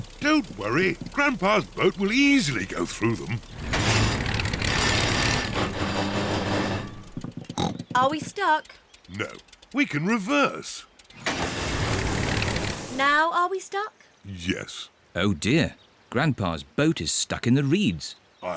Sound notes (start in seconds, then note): 3.7 clunks and splutters; 7.5 snorts